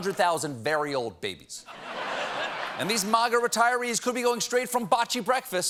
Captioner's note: laughter